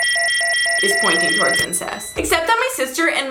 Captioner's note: robotic music; beeping